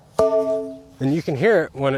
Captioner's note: metal pole bangs